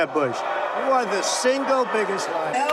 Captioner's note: crowd clamoring